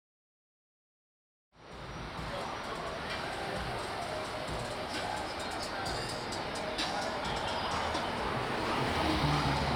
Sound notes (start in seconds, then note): 1.8 cars whooshing